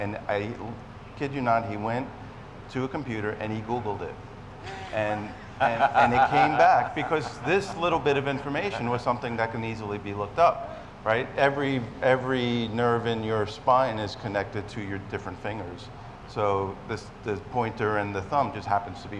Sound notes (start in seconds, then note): 4.6 laughs